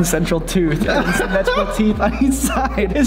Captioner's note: laughs